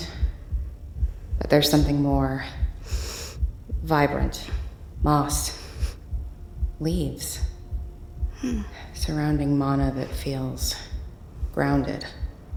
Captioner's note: Ilani sniffs the air